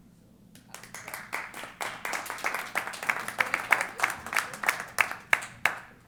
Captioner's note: applause